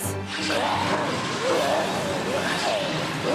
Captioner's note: growls